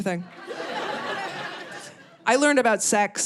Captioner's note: audience laughing